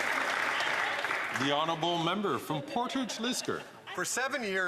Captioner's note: some Applause